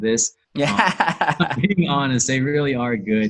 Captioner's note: laughs